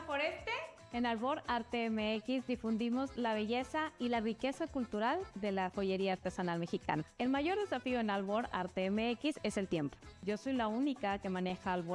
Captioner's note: speaking another language